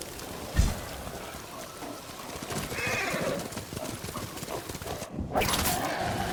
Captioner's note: thunder rumbling; horse neighing; horse neighing